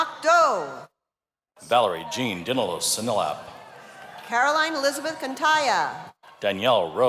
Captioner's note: cheers and applause